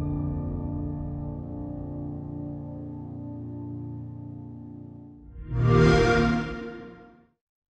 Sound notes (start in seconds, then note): 5.3 xbox sound